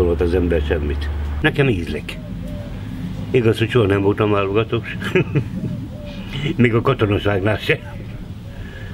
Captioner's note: laughter